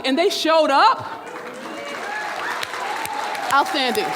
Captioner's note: audience cheering and clapping